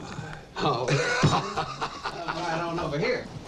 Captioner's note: laughing